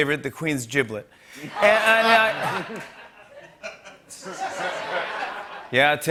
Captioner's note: laughter